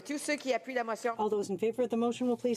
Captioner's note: speaking in french